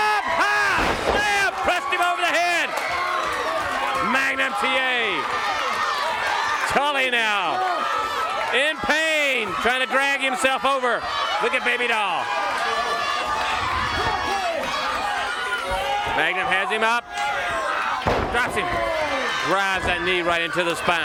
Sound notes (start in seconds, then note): 4.8 crowd cheering; 12.7 crowd chatter